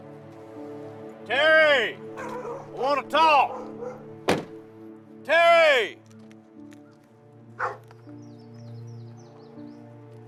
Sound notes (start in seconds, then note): 7.5 dogs barking